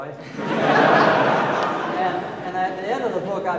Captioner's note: audience laughing